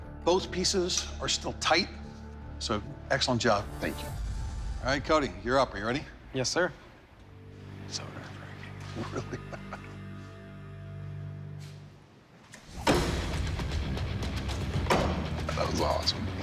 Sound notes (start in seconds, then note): 8.7 chuckles